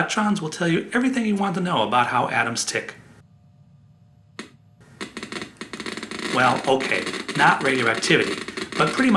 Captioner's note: geiger counter goes off